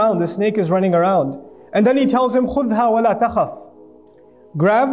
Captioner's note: Arabic